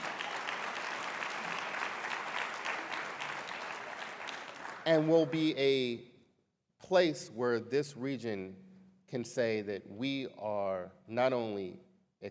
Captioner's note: applause